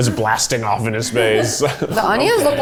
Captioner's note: laugh; laughs